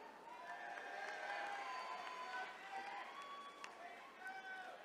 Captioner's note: attendees cheering